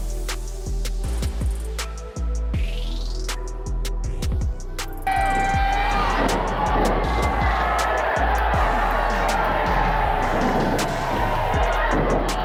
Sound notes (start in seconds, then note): 0.1 upbeat music; 5.0 crowd cheering